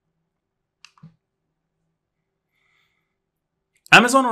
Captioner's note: remote clicking